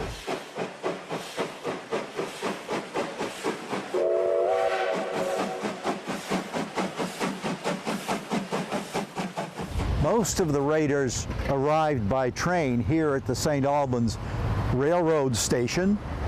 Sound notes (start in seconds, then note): 0.1 train chugging; 3.9 train whistle blowing; 6.0 train chugging